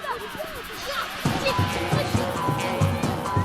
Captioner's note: shouts